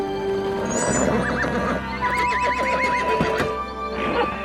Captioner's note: horse whinnies